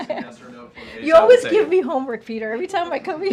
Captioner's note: laughs